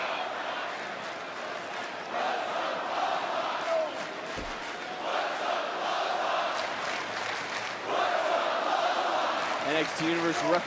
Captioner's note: crowd chants